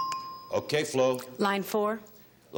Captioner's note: bell dinging